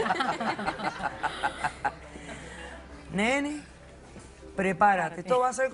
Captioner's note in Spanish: Risas